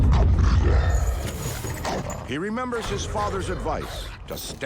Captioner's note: growling